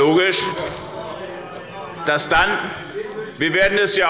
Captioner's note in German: Zurufe von der CDU